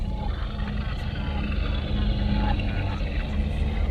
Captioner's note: suspenseful music; car engine whirring